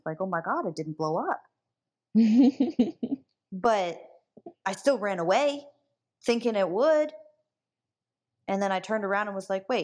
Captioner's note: laughs